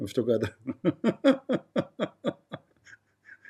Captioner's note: Ketawa